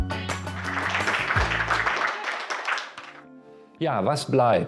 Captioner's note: claps